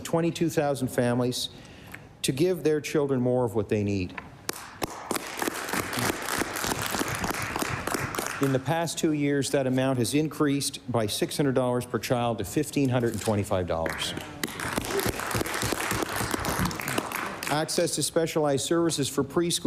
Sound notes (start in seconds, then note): 6.8 applause